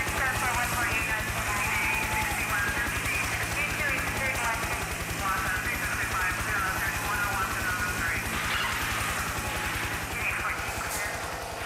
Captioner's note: radio traffic